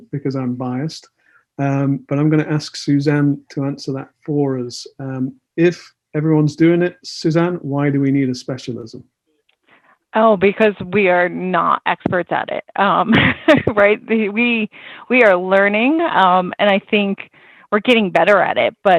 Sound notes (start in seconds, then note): 12.8 laughs